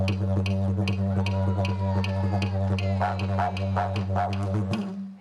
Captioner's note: cheering